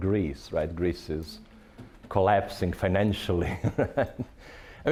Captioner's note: chuckling